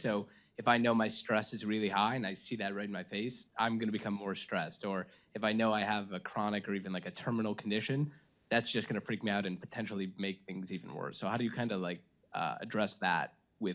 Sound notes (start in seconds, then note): none